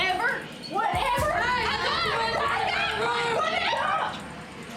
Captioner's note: shouting